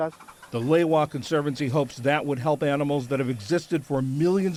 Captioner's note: voice-over